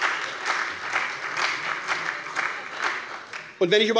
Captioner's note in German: Beifall bei der SPD